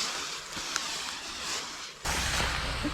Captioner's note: smoke going off